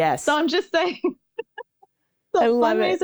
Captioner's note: laughing